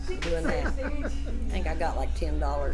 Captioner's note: laughs